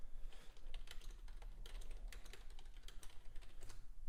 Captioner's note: typing